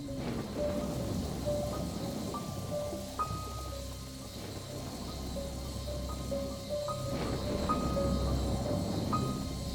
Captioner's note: creepy piano; thunder